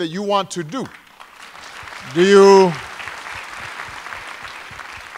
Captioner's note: applause